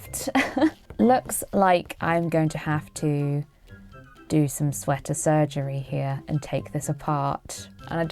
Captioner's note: laughs